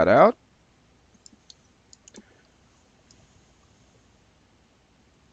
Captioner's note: mouse clicking